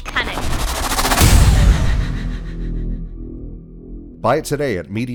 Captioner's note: loud explosion